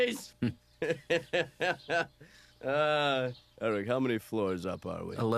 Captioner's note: laughs